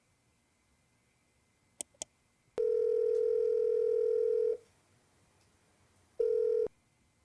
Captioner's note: phone ringing